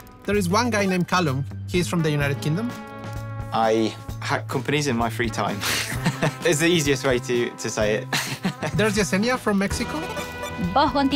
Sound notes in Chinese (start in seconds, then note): 5.6 笑聲; 8.2 笑聲; 10.4 說著 西班牙語